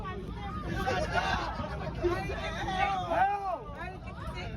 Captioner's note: passengers laughing